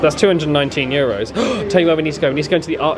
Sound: gasps

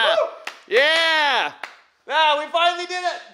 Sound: clapping

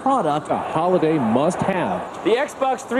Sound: voiceover

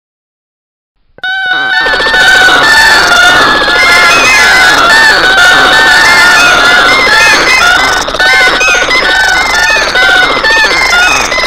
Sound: sound of bird

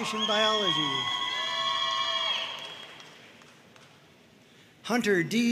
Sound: audience cheering and applauding

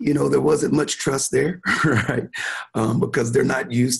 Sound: chuckling

